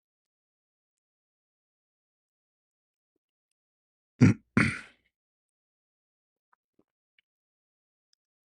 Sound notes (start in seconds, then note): 4.2 clears throat